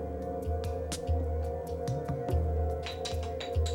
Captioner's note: opens bottle